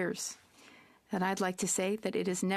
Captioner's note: speaking French